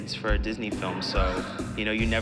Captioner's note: gasps